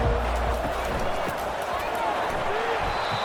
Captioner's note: crowd Noises